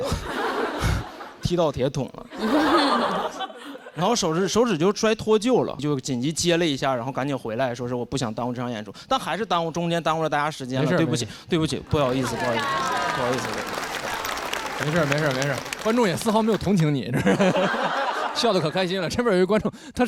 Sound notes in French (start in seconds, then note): 17.1 Rires joyeux